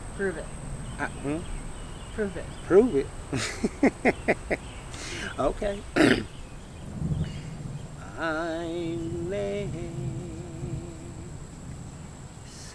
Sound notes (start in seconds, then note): 3.2 laughs; 5.9 clears throat